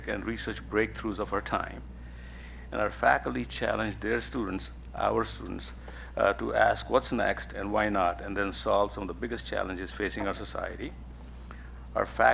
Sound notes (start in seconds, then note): none